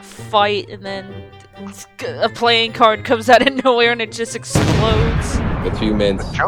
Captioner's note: stutters